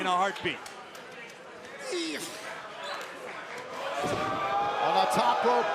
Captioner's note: crowd cheering